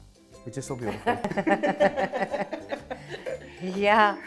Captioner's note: chuckles